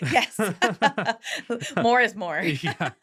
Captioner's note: laughing